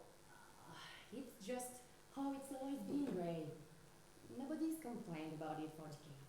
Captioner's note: sigh